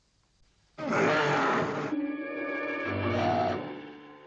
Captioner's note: werewolf growling; dramatic music